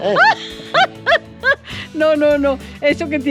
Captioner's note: laugh